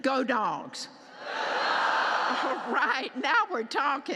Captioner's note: audience shouting